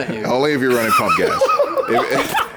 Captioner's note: laughs